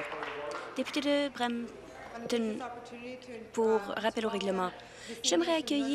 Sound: applause

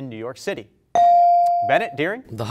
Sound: bell rings

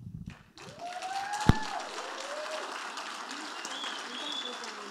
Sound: audience applauding

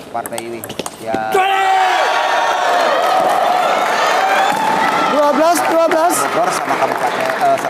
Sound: applause

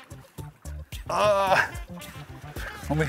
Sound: grunts

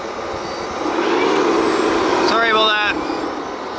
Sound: machine engine roaring

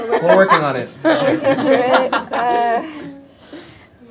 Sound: laughter

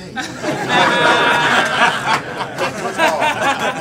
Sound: audience laughs

